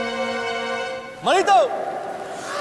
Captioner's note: loud voice